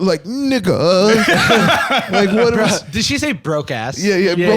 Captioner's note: laughs